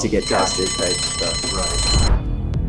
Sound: alarm ringing; seductive music

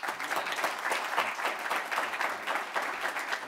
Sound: applause

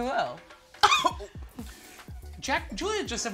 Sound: gasps

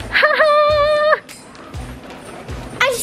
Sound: laughs

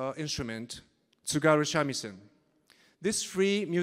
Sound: speaking in Japanese

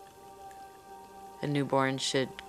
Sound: soft instrumental music; water boiling

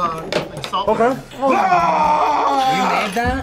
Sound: moan; screams

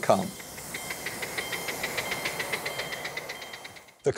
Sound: clacking

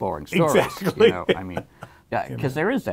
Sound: laughs

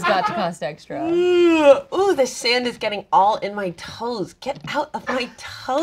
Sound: yawns

